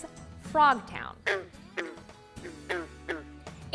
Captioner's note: frog croaking